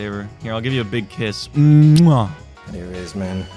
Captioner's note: mwah